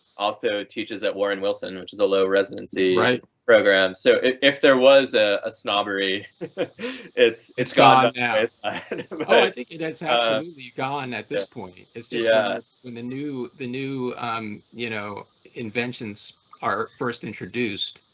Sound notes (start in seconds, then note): 5.7 laughing; 8.4 laughing